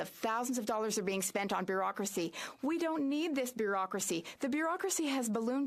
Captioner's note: speaking French